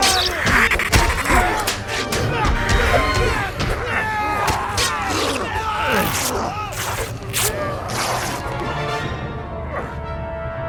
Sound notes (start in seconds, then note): 0.0 blows thudding; 0.2 vampire hissing; 2.0 Max and Dell grunting; 2.0 blows thudding; 4.6 clothes ripping; 4.9 vampire growling; 8.0 tense music